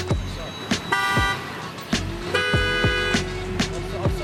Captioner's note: beeping